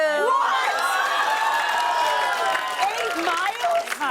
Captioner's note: cheers and applause